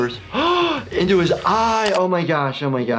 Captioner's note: gasps